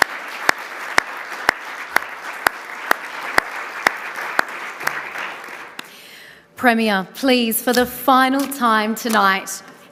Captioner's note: applause